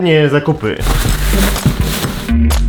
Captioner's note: rustle of plastic bags